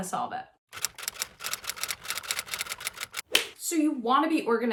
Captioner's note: graphics being typed